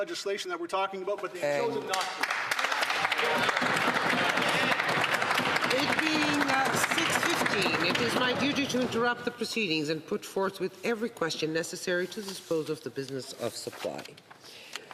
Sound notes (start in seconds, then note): 5.2 some Applause